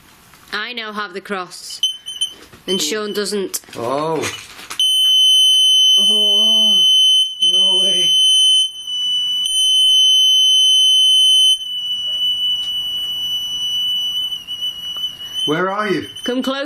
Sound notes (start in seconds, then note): 4.3 beeping; 8.9 beeping